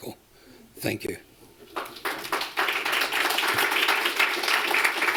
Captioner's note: applause